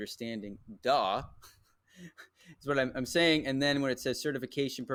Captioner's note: laughs